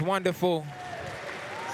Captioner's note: applause, cheers